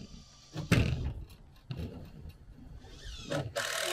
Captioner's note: board slamming on railing; saw cutting board; screw gun spinning